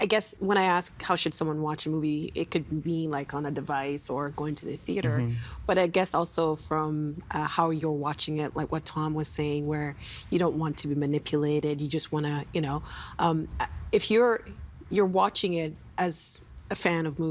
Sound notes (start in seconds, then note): none